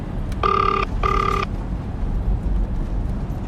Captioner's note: phone ringing